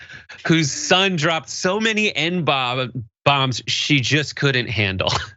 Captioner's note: laugh